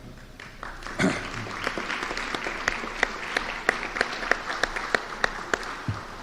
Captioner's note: applause